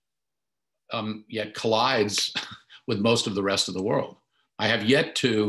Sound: chuckles

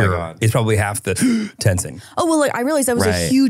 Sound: gasps

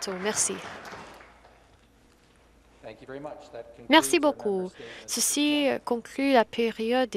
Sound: some Applause

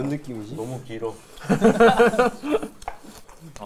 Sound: laughing

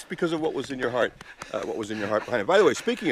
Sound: laughing

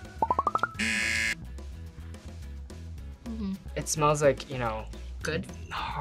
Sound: buzzer

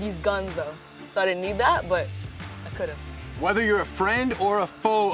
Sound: none

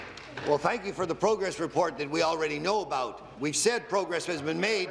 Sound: applause

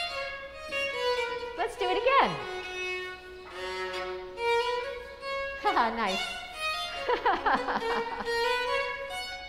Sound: laughter

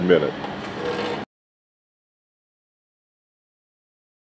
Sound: grinding

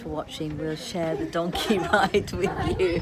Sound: laughs

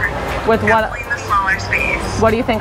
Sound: female On Phone

